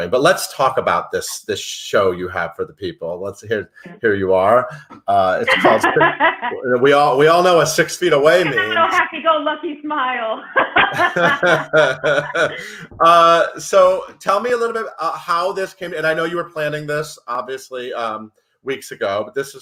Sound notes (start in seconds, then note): 5.4 laughs; 10.2 laughing